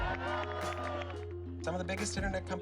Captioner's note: crowd cheers